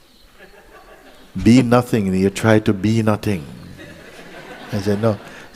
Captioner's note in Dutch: gelach